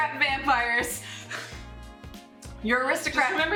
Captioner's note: laughing